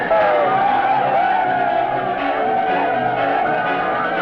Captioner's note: men shouting